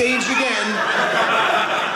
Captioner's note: audience laughing